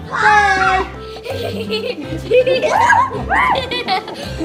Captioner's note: giggling